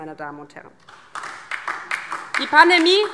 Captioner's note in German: Beifall DIE LINKE